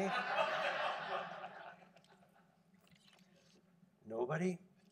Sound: audience laughing

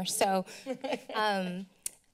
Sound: laughter

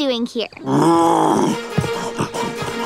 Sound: roaring

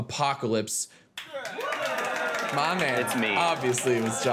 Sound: applause

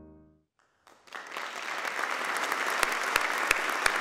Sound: applauding

